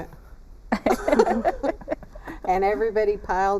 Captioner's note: laughter